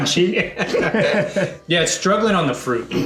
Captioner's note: laughs